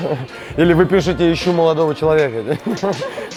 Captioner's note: laughs